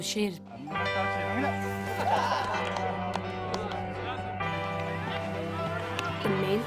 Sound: sounds of laughter, softball game

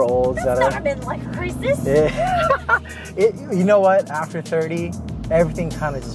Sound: laughs

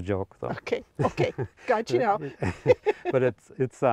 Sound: both laughing

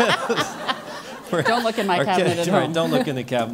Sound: laugh

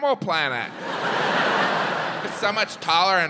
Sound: audience laughs

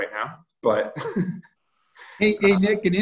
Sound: laughs

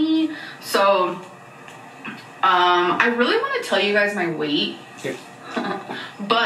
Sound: chuckles

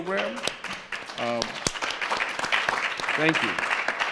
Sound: audience applauding

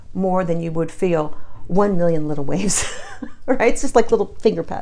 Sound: chuckles

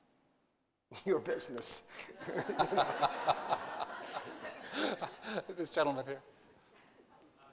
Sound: laughter

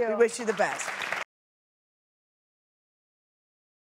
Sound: applause

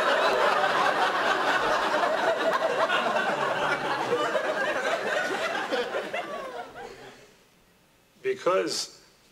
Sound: laughter

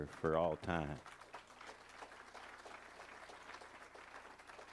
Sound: crowd applauding

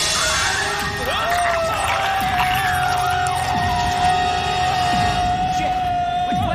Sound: loud screeching; screaming

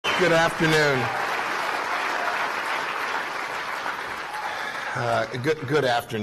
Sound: applause

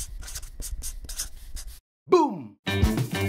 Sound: words scratching

